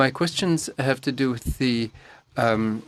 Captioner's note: speaking French